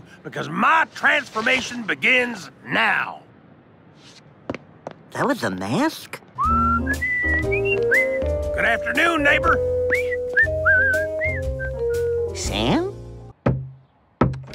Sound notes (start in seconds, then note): 6.4 joyful whistling; 14.2 knock knock